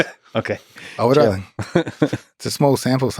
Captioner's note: Lex laughs